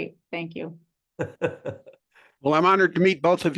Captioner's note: laugh